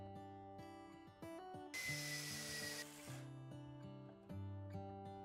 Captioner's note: drill machine buzzing